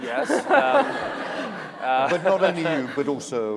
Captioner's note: laughter